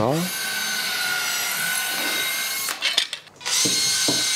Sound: buzzing, clicking

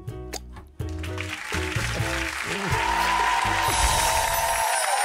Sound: audience clapping

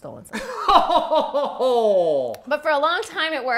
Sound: laughing

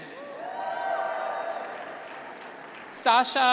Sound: graduates cheer

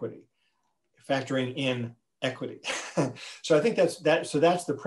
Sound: laughs

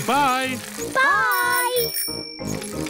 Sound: bell rings

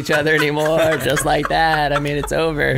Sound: laughs

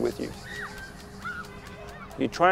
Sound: children calling playfully muted in the background

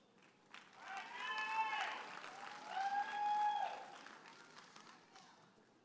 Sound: audience applauding and cheering

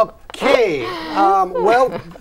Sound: laughing

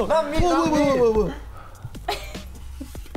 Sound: laughs; laughing

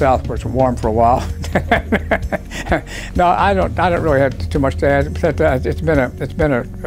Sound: laugh

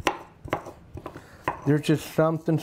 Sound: grinder clattering

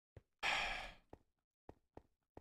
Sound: sighs

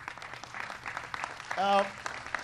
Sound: applause

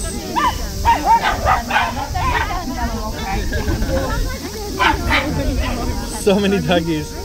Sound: dogs barking, people chatting

